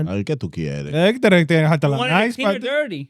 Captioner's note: speaking In Foreign Language